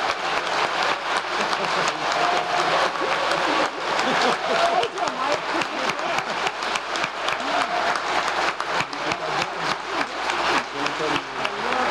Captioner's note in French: applause